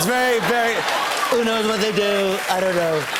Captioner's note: As Trump